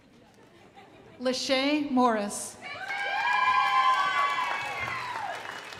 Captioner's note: crowd applauding